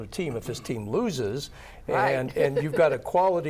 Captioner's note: laughs